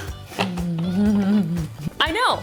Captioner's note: laughs